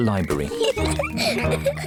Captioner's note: laughter